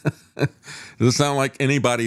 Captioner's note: laughs